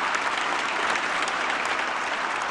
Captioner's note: applause